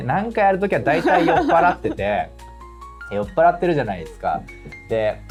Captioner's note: laughs